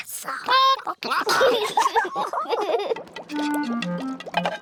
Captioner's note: chickens chatter; children giggle